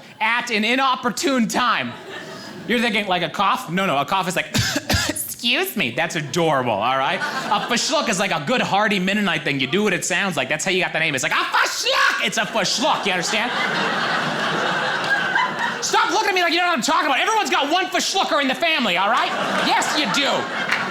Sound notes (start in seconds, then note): 4.5 coughs cutely; 13.4 audience laughing